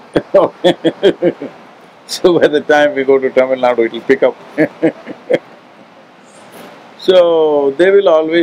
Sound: laughs; laughs

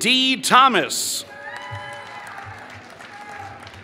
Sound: applause

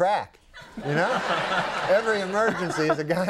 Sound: audience laughs

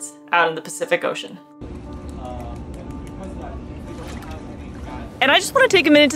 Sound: background music; background chatter; water splashing sounds; gentle tapping of paws

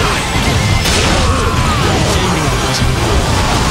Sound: KO Scream

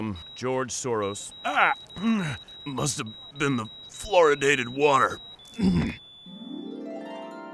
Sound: dying sounds

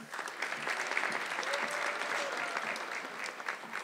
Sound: audience clapping

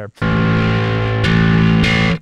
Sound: beeping

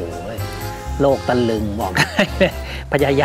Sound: chuckling

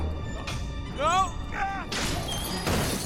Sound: scream

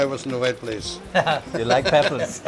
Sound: both laugh

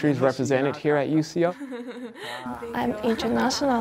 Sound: laughter

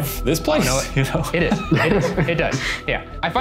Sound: laughs

